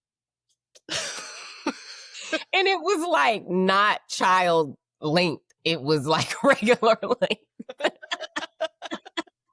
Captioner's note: laughing